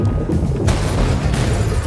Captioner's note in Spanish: ¡ka-BUUM!